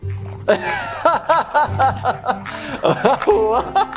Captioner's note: laughs